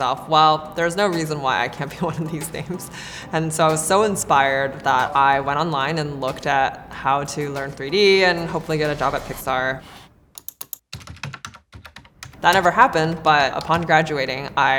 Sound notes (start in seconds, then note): 10.3 keyboard clacking; 10.4 mouse clicking